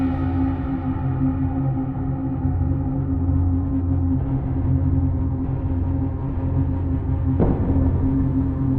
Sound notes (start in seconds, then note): 4.9 distant explosions